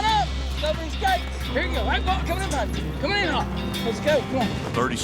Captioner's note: shouting